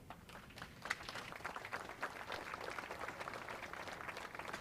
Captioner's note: audience applauds